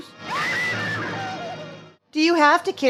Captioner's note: scream